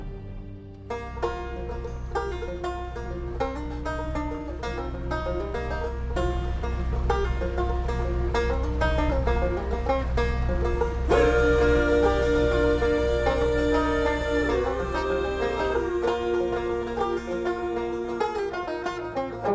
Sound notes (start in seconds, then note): 0.0 music ends echoing; 9.8 boat engine rumbling